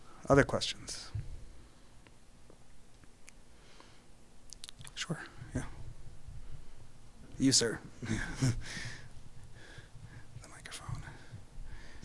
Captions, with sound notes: Other questions? Sure, yeah. You, sir. (chuckling) A microphone.